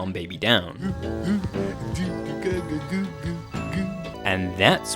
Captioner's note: Earl humming; whimsical music